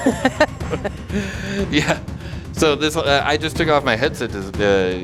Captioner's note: laughs